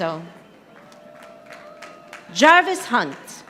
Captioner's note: audience applauding